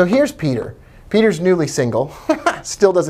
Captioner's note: laughs